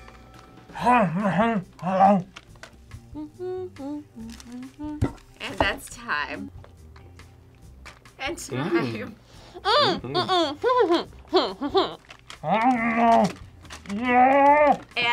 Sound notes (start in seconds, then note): 3.0 hums; 12.4 grunts